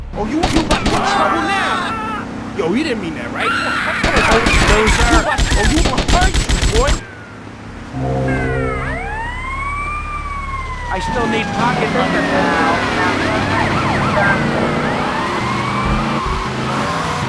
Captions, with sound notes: Oh, you, you, what's wrong with him? Yo, he didn't mean that, right? (tires screeching) I still need to talk to him. (tires screeching)